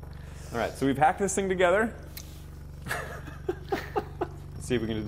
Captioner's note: laughs